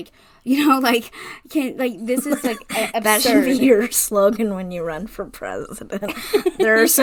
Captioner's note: laughing